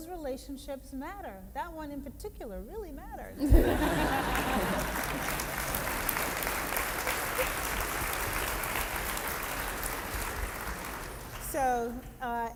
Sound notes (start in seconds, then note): 7.3 applause